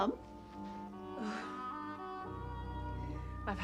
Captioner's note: Menghela napas